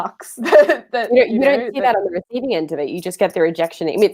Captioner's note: murmurs